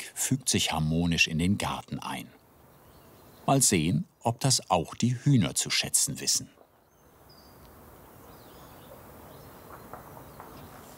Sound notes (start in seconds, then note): 7.2 birds chirping